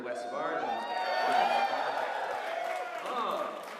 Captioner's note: audience cheers